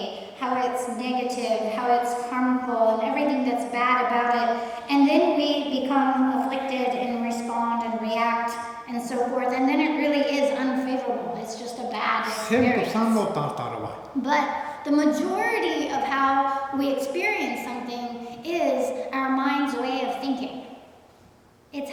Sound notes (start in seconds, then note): 14.3 speaking tibetan